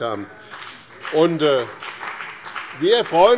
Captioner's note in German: Beifall bei dem BÜNDNIS 90/DIE GRÜNEN und der CDU